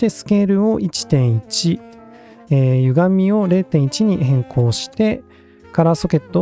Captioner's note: distortion